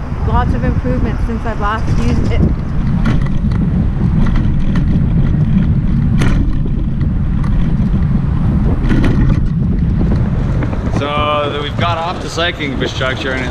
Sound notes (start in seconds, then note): 3.4 wind whirring